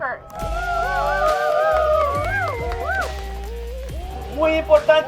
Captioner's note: activists cheering